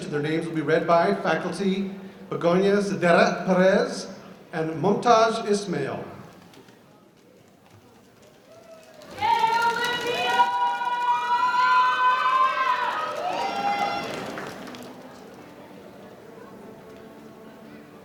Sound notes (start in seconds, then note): 5.8 cheering; 12.7 audience cheering